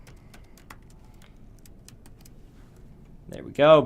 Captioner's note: typing Noises